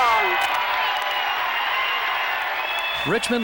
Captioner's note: audience cheering